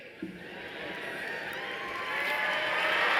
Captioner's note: applause